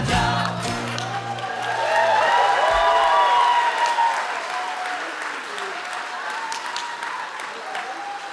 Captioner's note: audience cheering